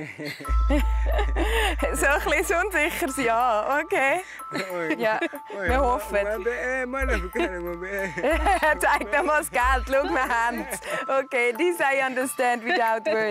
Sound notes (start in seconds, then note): 7.0 laughing